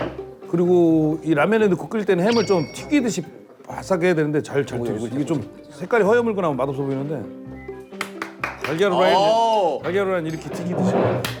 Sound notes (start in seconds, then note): 8.0 Tepuk tangan